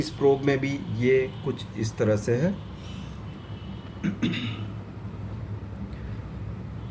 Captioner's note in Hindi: खांसने की आवाज़; गला साफ़ करने की आवाज़